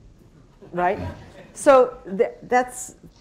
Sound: laughter

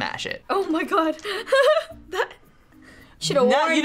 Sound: laughs

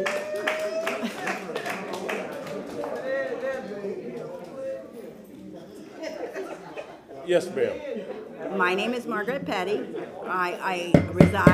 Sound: laughter

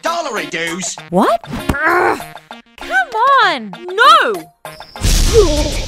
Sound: grunt

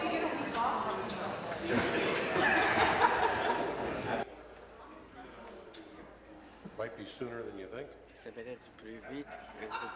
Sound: conversation din

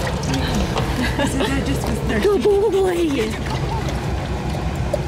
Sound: laughter

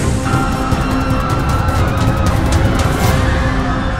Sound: passengers Screaming

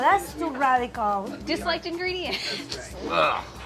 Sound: laughs

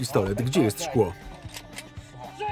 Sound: cocks gun; indistinct shouting

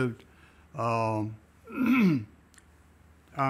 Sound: clears throat

